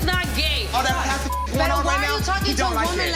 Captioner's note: beep